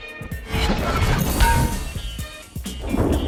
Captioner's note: hammer clanging